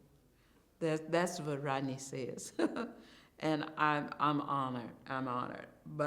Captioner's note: chuckles